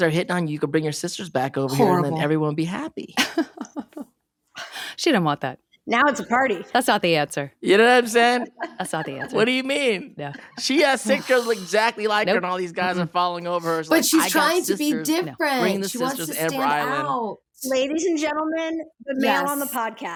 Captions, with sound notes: You can bring your sisters back over here. And then everyone would be happy." [laughing] She don't want that. Now it's a party. - That's not the answer. - You know what I'm saying? - That's not the answer. - What do you mean? She has six girls exactly like her and all these guys are falling over her- But she's trying to be different. She wants to stand out. Ladies and gentlemen, the male on the podcast.